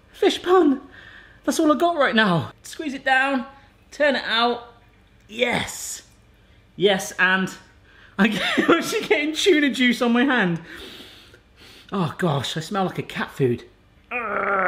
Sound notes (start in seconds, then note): 7.4 laughs; 11.6 sniffs